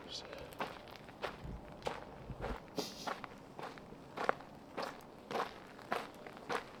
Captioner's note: wind